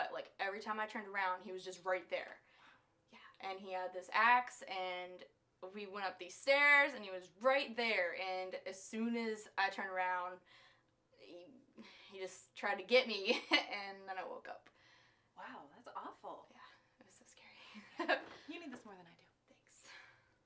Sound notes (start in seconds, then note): 12.9 laughs